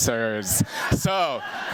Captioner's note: laughter